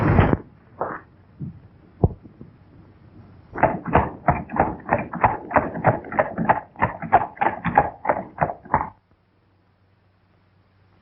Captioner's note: pounding